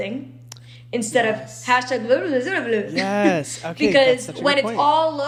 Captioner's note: bubbling